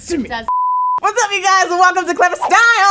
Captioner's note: beep